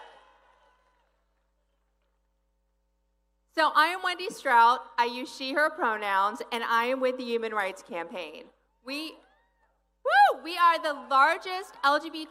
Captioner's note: applause